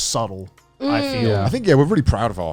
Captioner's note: humming in agreement